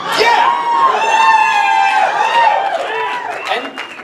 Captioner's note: audience cheers